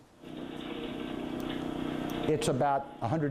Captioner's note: engine rumbling